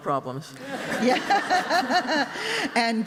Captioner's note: laughter